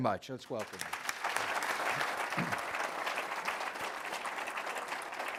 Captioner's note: applause